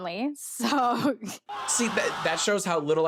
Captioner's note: chuckling